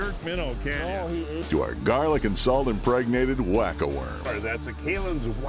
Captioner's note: voiceover